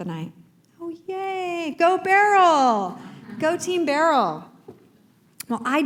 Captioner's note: laughter